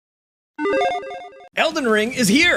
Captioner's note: graphic blips